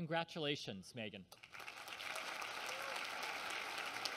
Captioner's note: applause